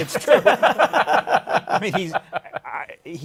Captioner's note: laughter